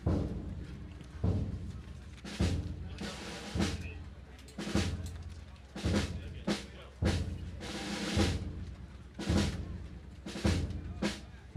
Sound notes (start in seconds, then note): 0.1 gentle drumming music; 6.1 audience chatting indistinctly